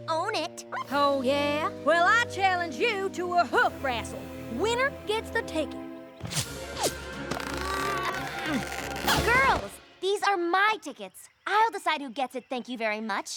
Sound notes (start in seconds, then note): 6.7 zip! zip!; 7.6 both grunting